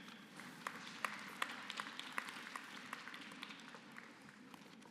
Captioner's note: applause